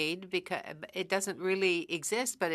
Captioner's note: speaking French